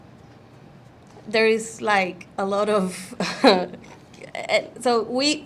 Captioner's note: chuckles